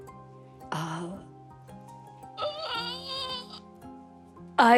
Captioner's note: gasps